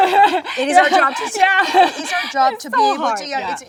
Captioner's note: Jung laughs